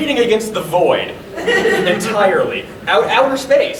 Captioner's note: audience laughing